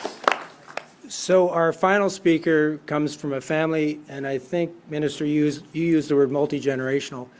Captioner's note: applause